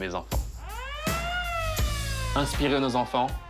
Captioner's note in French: sirène